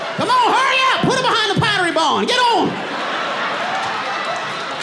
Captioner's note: audience laughing and applauding; laughs